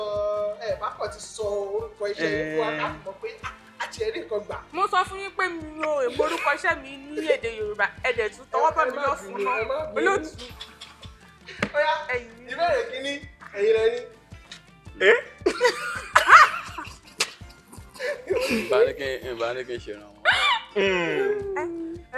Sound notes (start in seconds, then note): 9.2 host laughs; 15.4 everyone laughs